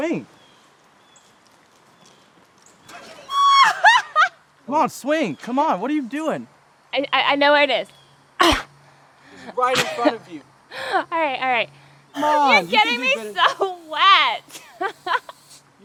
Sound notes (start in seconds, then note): 1.5 beer splashing; 2.9 Donna laughing; 8.5 Donna grunts; 14.9 laughing